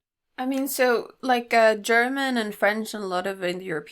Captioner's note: none